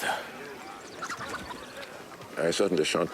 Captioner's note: bird chirping